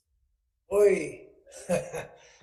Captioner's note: chuckling